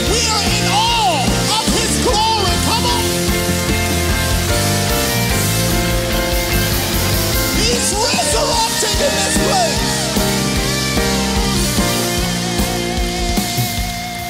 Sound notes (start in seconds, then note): 3.2 audience applauds; 3.2 audience cheers; 10.0 triumphant music